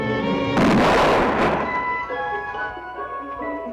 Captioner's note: gunshot